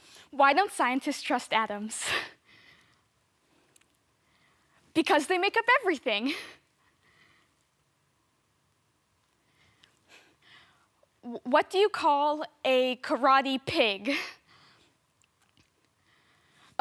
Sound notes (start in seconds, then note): 0.0 silent; 2.6 soft breathing; 6.7 soft breathing; 15.9 soft breathing